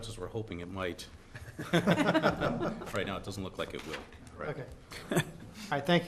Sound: laughter

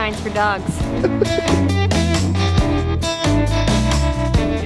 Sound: chuckle

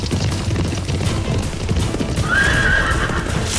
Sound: horse neighing

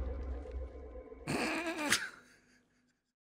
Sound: snickering

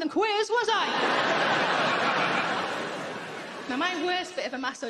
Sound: audience laughing

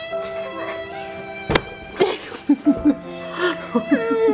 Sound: laughing

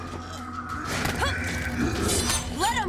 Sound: grunting

